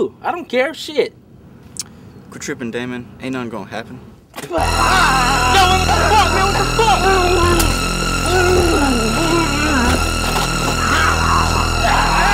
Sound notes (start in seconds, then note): 4.4 everyone screams; 4.4 terror-stricken music; 7.3 Jermaine growling